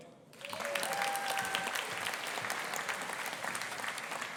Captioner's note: audience applauding